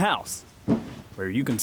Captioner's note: footsteps